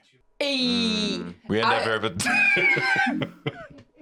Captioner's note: laughs